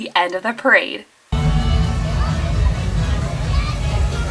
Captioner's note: chattering